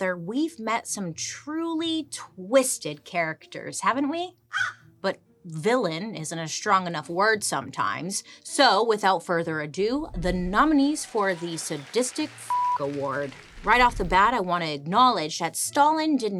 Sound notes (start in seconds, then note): 4.5 Joan caws; 12.5 beep